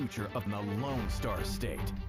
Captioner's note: HABLAN EN INGLéS